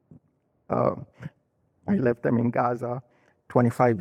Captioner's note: crying